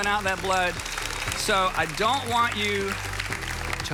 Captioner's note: audience applauds